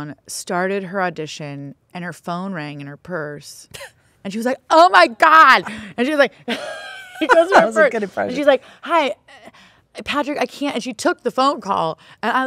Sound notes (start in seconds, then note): 6.4 both laughing